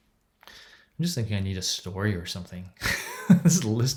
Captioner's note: chuckles